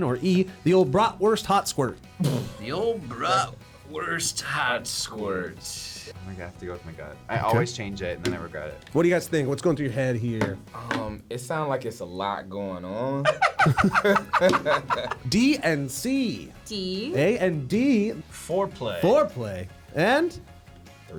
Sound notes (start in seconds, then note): 13.2 both laugh